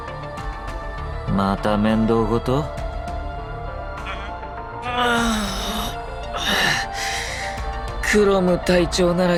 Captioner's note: yawn